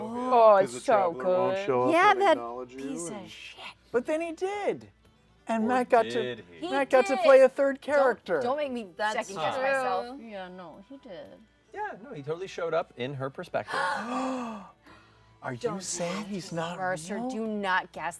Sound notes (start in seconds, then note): 13.7 gasps